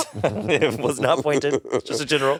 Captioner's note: all laughing